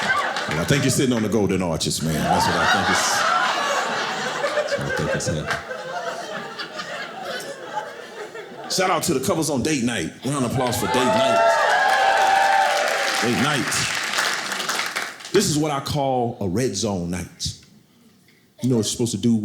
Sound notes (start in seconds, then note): 2.0 audience laughing; 10.2 audience cheering